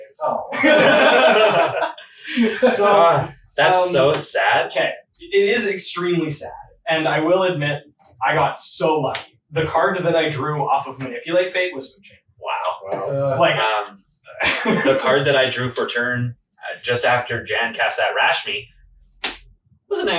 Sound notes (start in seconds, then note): 4.1 all Laughing